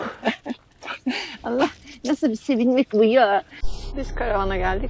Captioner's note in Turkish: kahkaha